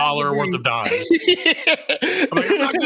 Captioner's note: laughing